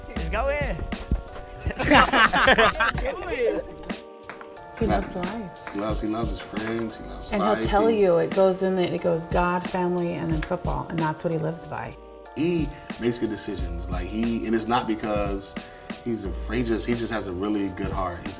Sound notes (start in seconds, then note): 1.6 team laughs